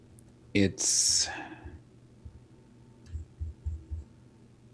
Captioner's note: sighing